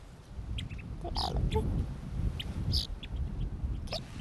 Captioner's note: indistinct chatter